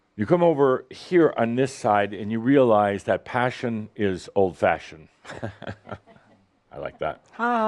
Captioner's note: Adamus chuckles